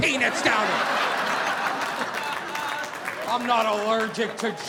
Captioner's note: audience laughing